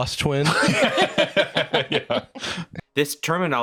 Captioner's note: laughing